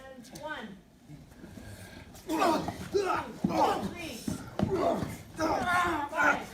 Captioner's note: grunting